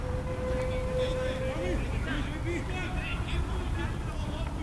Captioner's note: players shouting